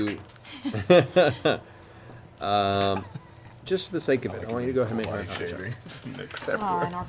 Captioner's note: laughs